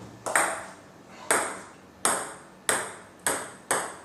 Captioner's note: ball ping pong hitting